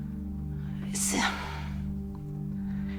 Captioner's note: sighing